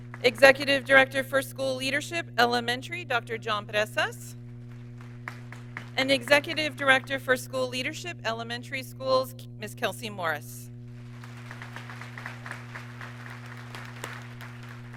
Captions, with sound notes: Executive Director for School Leadership Elementary, Dr. John Presas. And Executive Director for School Leadership Elementary Schools, Ms. Kelsey Morris. (audience clapping)